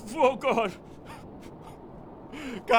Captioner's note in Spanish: llanto lastimero